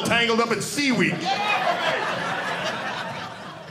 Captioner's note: audience laughing